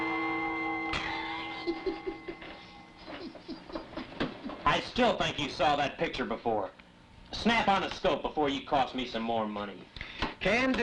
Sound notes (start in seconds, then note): 0.9 laughing